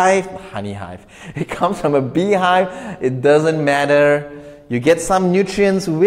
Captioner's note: chuckles